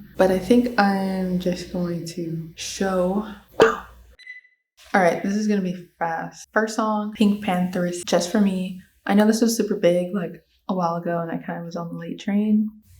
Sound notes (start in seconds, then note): 3.6 cork popping sfx; 4.2 beep sfx